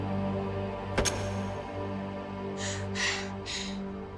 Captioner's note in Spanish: Sonido al apretar el gatillo